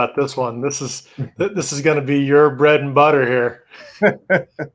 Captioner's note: laughs